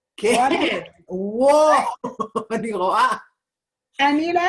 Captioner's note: laughing